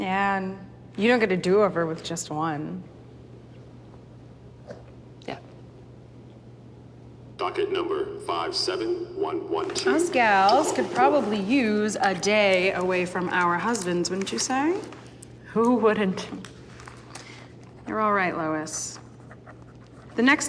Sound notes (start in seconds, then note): 7.8 loudspeaker